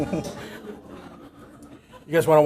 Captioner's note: laughter